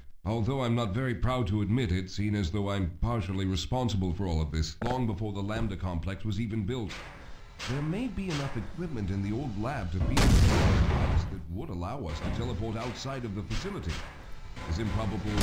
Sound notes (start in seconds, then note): 10.0 explosion